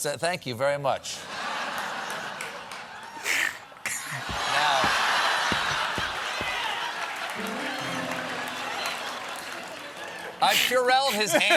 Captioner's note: laughter